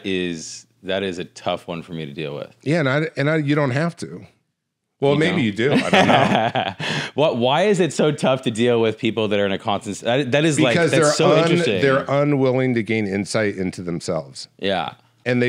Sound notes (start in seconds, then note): 5.4 laughs